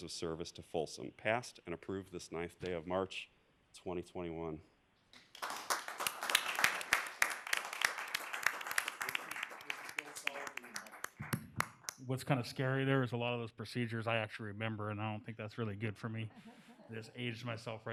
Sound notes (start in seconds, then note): 10.9 applause